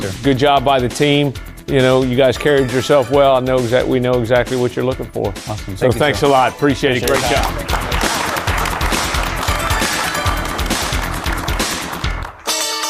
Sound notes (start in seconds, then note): 8.5 applause; 9.7 jazzy rock music